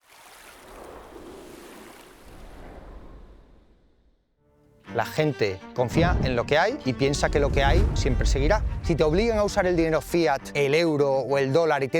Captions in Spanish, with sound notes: (agua corriendo) (ráfaga de viento) - La gente confía en lo que hay y piensa que lo que hay siempre seguirá. Si te obligan a usar el dinero fiat, el euro o el dólar